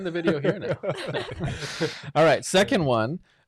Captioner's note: laughing